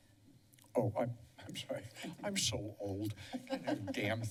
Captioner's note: laughter